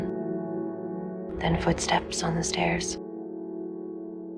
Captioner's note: voiceover; voiceover